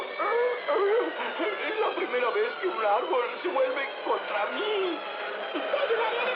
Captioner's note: sighs